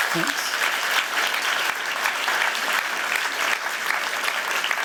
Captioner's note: applause